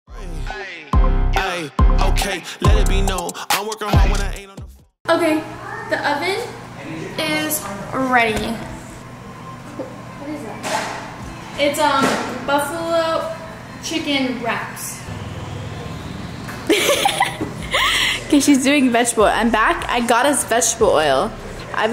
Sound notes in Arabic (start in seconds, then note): 16.6 تضحك